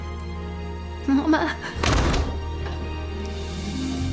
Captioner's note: door shuts